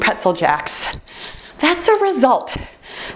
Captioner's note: timer beeps